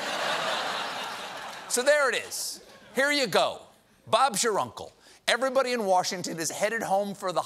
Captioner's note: laughter